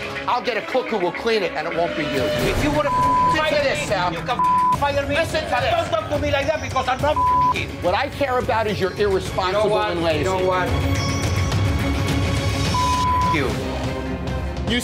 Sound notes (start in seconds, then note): 2.2 beep; 7.1 beep; 11.5 intense music continues; 12.7 beep